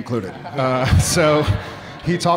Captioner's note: audience laughing